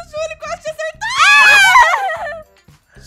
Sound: screams and laughter

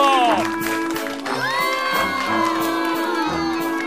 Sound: all jeering

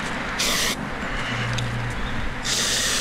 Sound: spraying

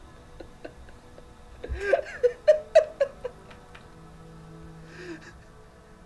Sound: laughing

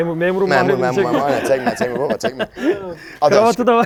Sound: laughs

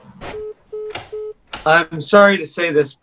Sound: phone beeping

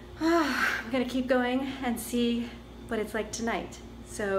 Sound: sighs

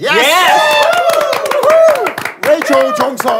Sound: sound of cheering

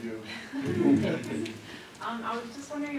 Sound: laughs

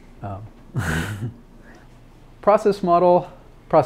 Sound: laughs

